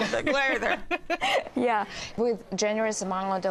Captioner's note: laughs